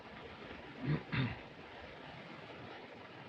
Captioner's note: clears throat